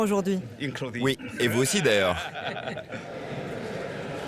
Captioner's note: laughs